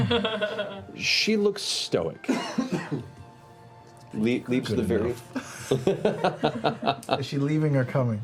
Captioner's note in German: lacht